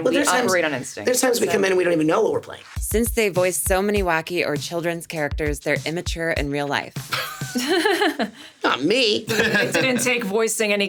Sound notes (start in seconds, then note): 7.1 SungWon and Sarah laughing; 9.2 SungWon laughs